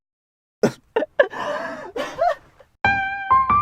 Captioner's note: chuckling